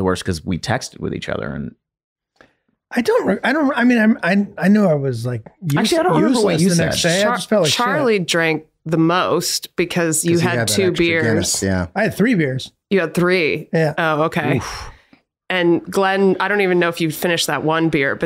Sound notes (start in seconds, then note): 14.5 Glenn grunting